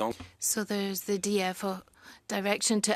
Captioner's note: speaking in French